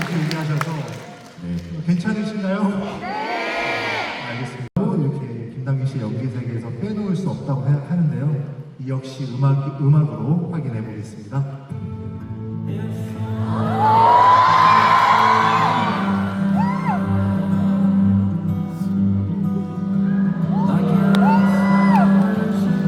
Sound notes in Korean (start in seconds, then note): 0.0 환호; 13.4 환호; 13.5 비명